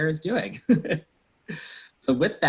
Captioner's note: laughs